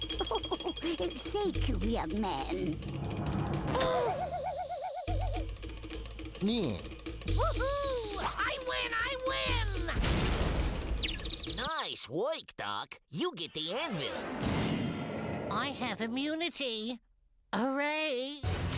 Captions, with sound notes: [giggles] THANK YOU, YOUNG MAN. OH! [jeers] WHOO-HOO! I WIN! I WIN! NICE WORK, DOC. YOU GET THE ANVIL. I HAVE IMMUNITY. HOORAY.